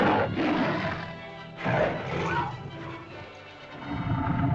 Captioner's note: lizard bellows; suspenseful music; lizard bellows; cavepeople yelp; lizard moans & bellows; suspenseful music